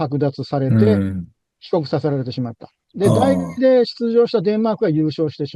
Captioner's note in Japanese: 咳払い